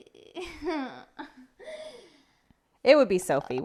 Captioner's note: chuckling